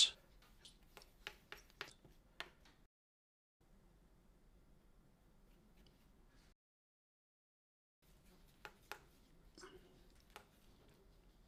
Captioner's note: silence